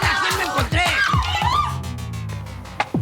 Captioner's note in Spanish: Grito